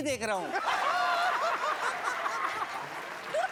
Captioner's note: laughing